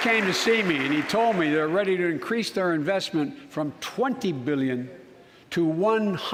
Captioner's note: applause